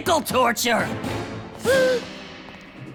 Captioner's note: gasps